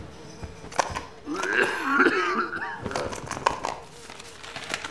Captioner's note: flies buzzing; coins chinking; homeless man coughs